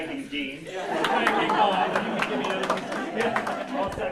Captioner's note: crowd laughter